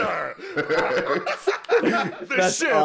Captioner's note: laughter